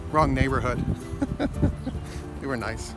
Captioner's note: laughs